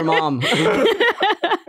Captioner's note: everyone laughs